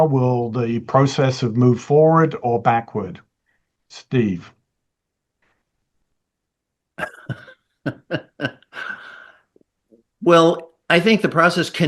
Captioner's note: laughs